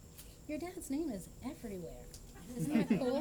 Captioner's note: laughter